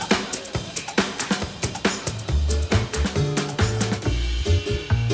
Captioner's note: applause